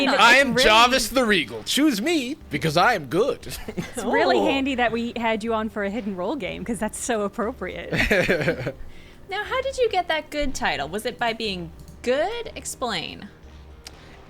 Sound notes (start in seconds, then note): 3.5 players laughing; 8.0 Jarvis laughing